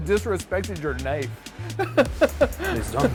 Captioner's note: laughs